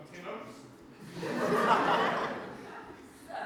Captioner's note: audience laughter